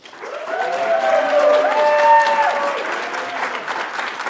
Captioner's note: audience applauds